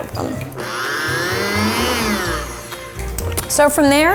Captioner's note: blender buzzing